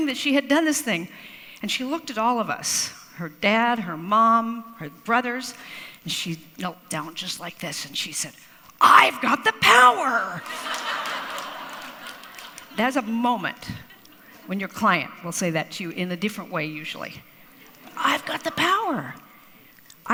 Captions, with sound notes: that she had done this thing. And she looked at all of us, her dad, her mom, her brothers, and she knelt down just like this, and she said, "I've got the power." (crowd laughs) That is a moment when your client will say that to you in a different way usually. I've got the power.